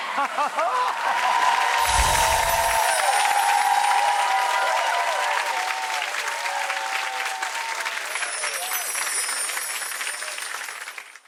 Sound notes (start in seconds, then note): 0.1 Rachael laughing; 0.1 audience cheering; 1.8 chimes tinkling